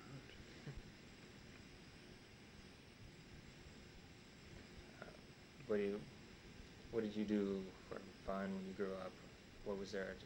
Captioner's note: chuckles